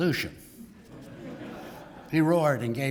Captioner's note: laugh